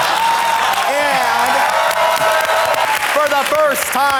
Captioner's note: audience laughs; audience applauds